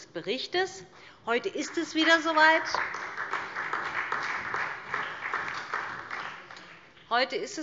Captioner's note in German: Beifall SPD